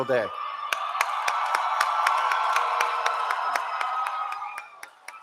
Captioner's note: cheering